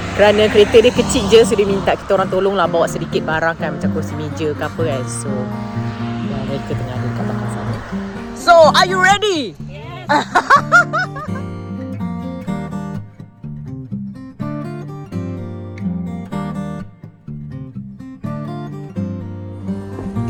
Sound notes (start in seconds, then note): 9.5 laugh; 12.1 background music